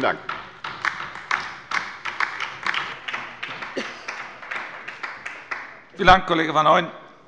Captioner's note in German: Beifall bei der LINKEN